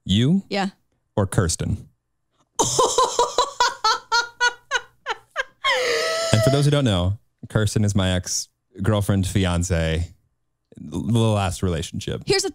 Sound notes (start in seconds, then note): 2.6 laughs